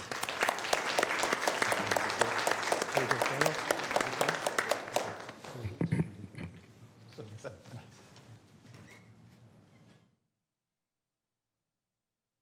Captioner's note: applause